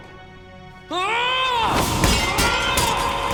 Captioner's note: frustrated yell